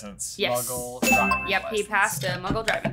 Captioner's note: bell dings